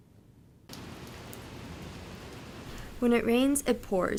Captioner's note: sounds of rain